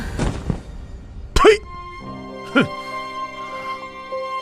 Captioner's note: ptui!